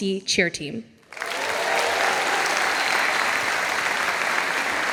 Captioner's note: audience applauding